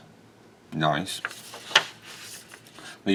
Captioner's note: paper rusting